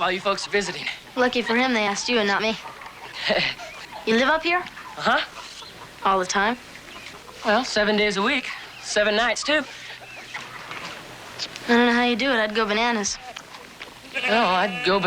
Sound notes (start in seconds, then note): 1.8 chuckles